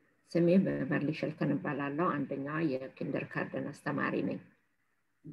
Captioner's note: speaking in foreign language